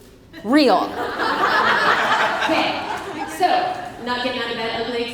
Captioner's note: audience laughs